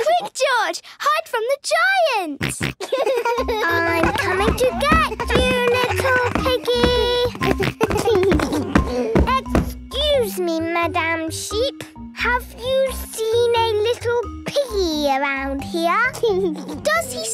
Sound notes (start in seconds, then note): 2.4 giggles, snorts; 7.6 giggles